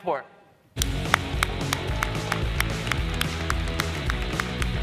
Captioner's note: applause